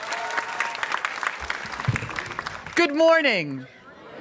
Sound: applause

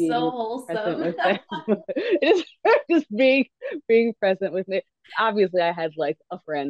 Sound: laughs

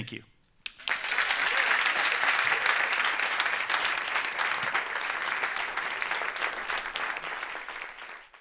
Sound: applause

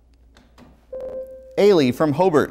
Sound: buzzer

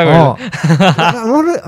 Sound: laughs

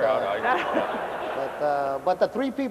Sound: laughter

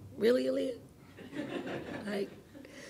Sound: interviewers laughing

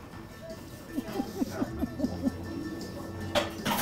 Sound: laughs

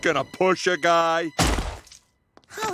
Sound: thud

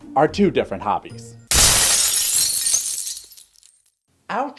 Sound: glass Crack

